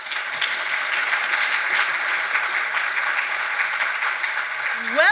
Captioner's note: audience applauds